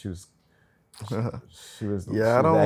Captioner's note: chuckles